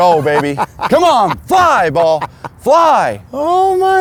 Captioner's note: laughs